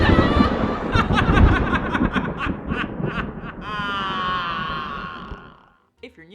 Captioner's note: evil Laugh